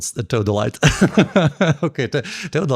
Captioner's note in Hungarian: nevetés